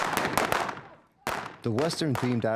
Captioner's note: gun fire